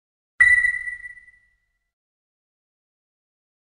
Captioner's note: chime